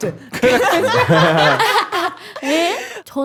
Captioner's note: can't hold back laughter